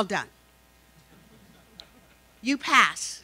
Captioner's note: laughing